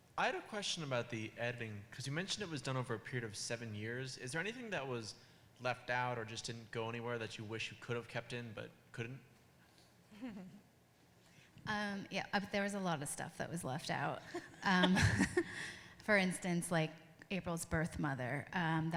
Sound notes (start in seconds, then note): 10.1 laughs; 14.2 all laughing